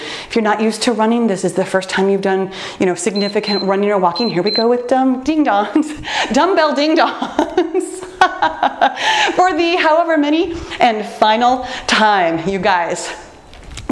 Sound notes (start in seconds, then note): 4.0 timer beeps; 6.0 laughs